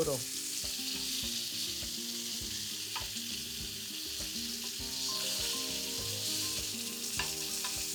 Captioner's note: sizzling